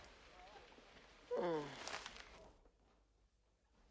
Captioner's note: Стонет